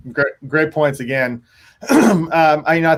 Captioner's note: clears throat